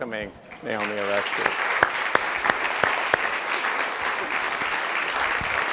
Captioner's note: applause